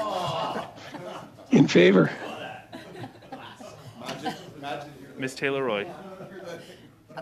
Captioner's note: laughter